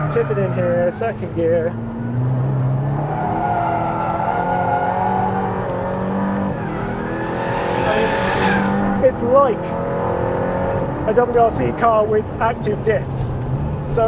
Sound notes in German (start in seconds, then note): 2.3 Motor brummt; 2.3 Reifen quietschen